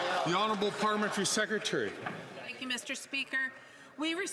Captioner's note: some Applause